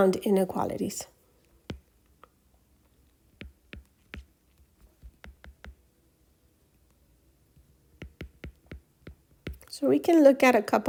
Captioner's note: writing Sounds